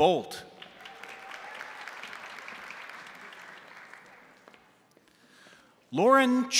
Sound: crowd applauding; crowd cheering

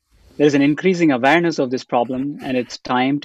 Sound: laughs

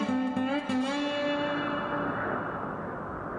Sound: wind blowing

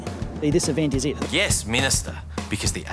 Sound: none

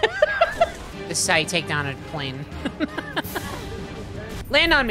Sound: laughing

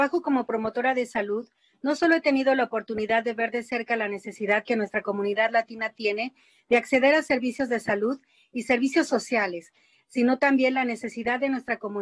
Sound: speaking in spanish

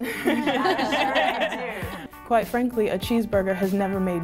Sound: laughs

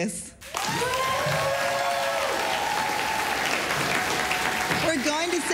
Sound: applause, cheering

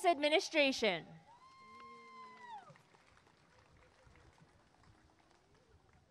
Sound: applause and cheering

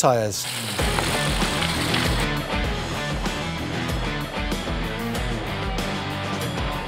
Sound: bike tires zipping; upbeat music

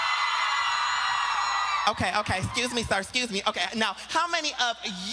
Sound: applause

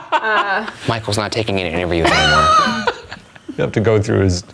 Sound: laughter drowns out words

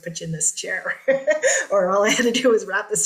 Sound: laughter

